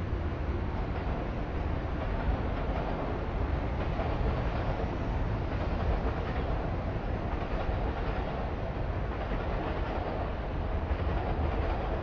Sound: train Noises

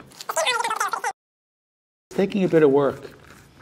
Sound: fast-forward squeaking

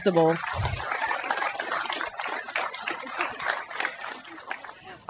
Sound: applause

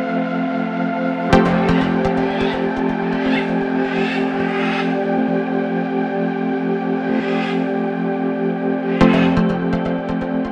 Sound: macaws squawking

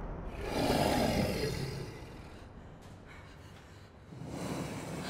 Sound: heavy breathing

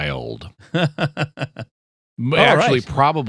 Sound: laughter

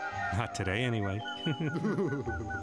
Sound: laughing

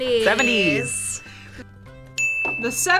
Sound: ding

